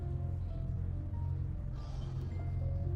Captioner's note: sighing